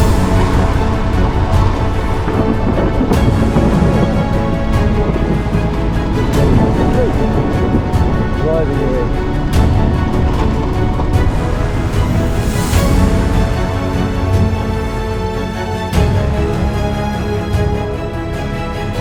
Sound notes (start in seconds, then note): 5.8 thunderstorm